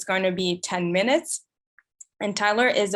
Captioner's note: none